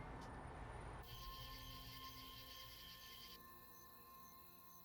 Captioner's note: crickets chirping